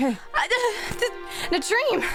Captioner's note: spluttering